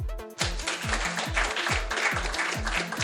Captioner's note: electronic music; applause